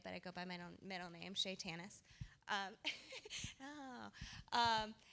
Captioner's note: laughter